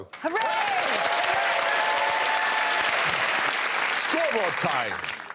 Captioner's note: cheering and applause